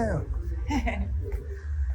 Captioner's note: giggles